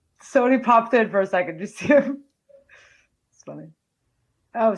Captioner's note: laughs